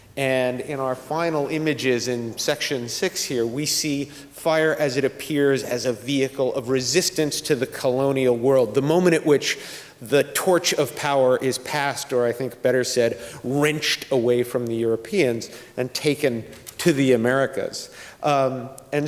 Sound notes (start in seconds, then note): none